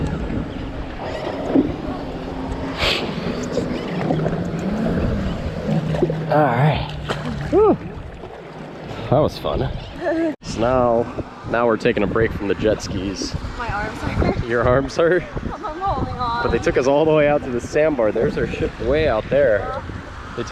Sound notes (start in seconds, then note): 4.2 water lapping